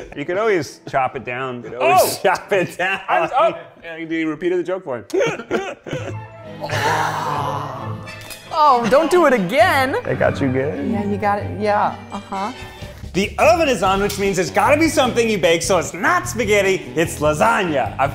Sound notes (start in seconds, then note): 5.1 laughing; 6.5 Zach gags; 8.3 slaps